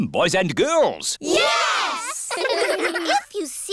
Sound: giggling

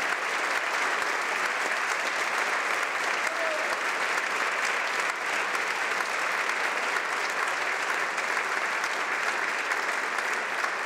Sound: applause

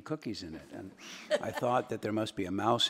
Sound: attendees laughing

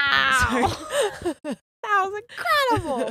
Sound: both laugh

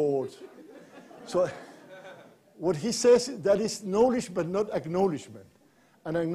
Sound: laughter

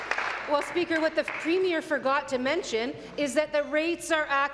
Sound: applause

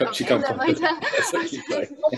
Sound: laughter

